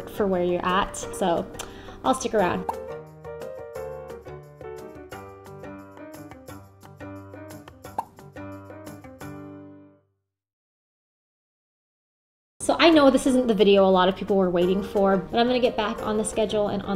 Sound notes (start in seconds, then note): 2.6 popping noise; 7.9 popping noise